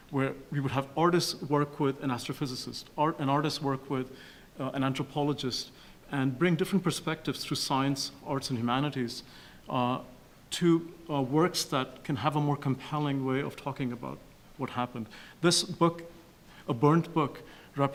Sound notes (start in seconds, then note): none